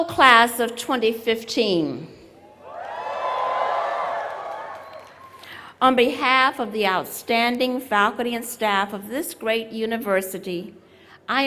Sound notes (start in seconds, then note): 2.7 applause